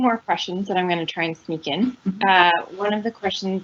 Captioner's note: chuckles